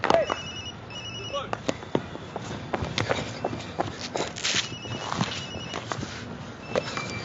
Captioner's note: cellphone rings; cricket bats crack against balls